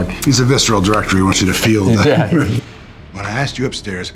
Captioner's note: Matt laughs